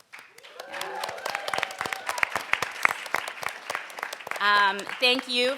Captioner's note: crowd cheers, applauds